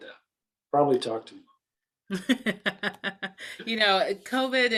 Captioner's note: laughs